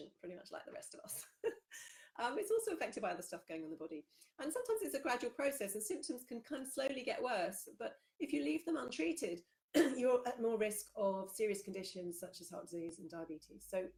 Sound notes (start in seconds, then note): 2.0 laughs; 9.8 clears throat